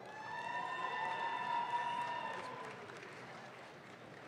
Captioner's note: audience claps